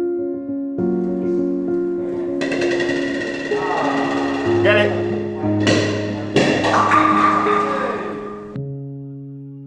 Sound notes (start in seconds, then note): 2.4 bowling ball hits the floor; 5.6 ball rebounds from wall and strikes pins